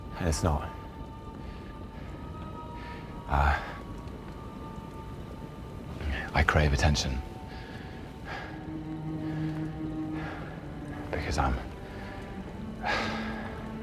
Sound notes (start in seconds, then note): 12.5 sighs